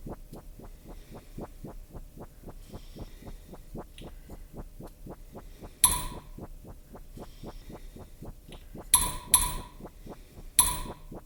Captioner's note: eerie, pulsating sound